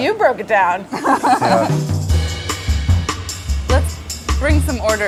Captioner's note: laugher